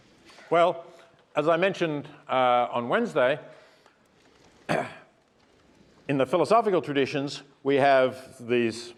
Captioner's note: cough